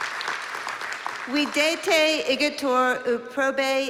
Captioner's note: non-english speech